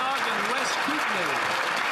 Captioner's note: some Applause